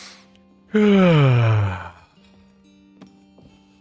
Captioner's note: yawn